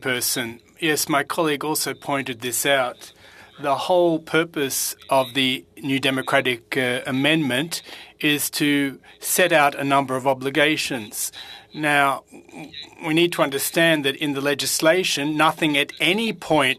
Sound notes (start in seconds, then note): 3.5 speaking French